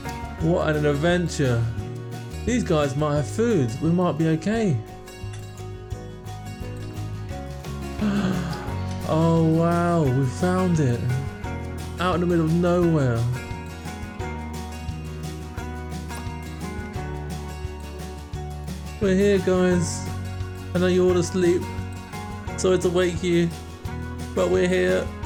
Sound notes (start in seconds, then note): 8.0 gasp